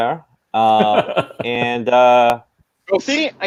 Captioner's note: laughing